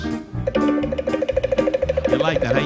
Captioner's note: instruments clicking